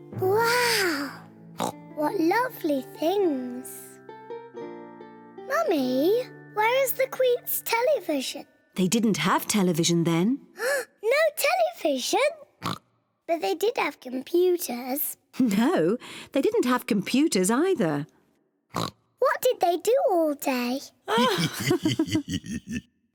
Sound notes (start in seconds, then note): 1.6 oinks; 10.5 gasps; 12.6 oinks; 18.7 oinks; 21.1 both laugh